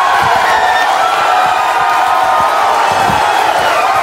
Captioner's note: audience cheering